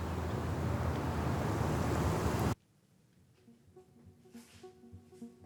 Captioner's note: car engines rumbling; calm music